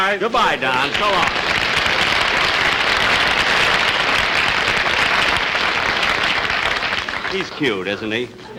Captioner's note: audience Applauding